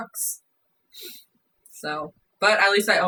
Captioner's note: sniffs nose